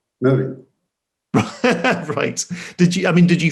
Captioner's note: laughs